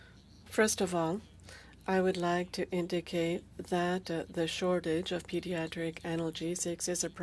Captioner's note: speaking French